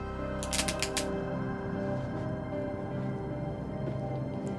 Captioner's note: lights crackling